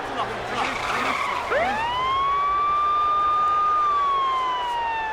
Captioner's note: siren blaring